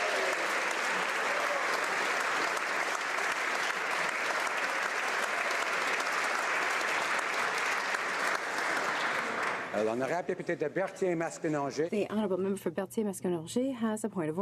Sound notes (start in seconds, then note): 0.0 applause